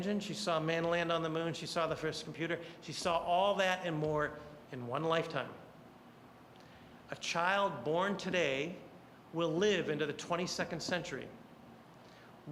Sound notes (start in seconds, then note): none